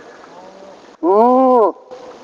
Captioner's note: imitating animal call; animal call; imitating animal call